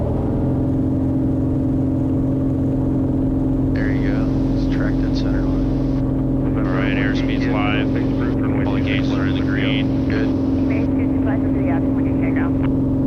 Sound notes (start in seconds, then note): 0.3 plane engine roaring; 8.4 radio chatter